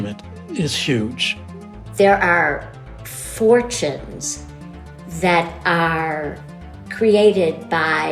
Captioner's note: soundbite of archived recording